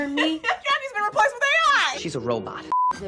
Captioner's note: laughs